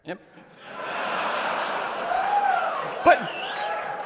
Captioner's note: laughter